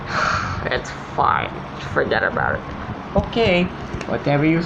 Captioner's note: sighs